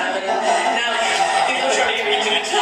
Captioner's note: crowd laughing